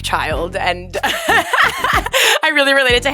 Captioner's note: Barbie laughing